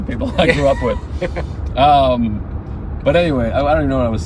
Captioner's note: laughing